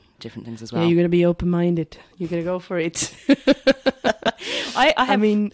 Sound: laughs

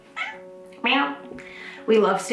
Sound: mimics meow

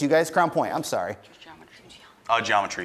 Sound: team whispers

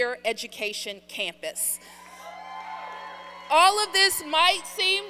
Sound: applause

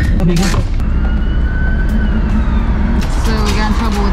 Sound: siren wails

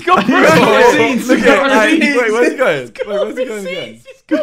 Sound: all laughing

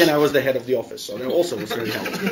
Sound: laughter

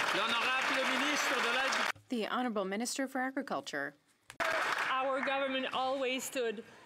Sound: some Applause

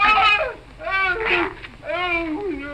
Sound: groaning

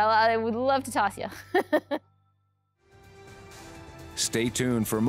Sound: laughs

